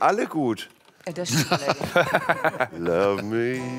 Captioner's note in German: Lachen